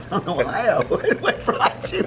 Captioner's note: both laugh